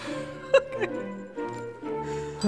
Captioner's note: laughs